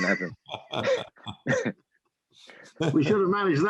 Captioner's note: laughter